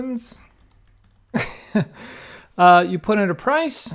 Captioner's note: laughing